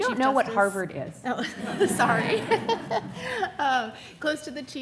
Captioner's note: audience laughing